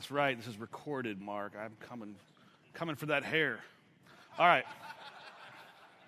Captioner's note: laughter